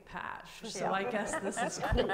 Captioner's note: panel laughs